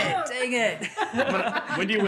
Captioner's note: all laughing